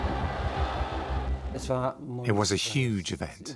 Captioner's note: crowd cheers